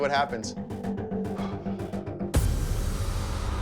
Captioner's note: exhales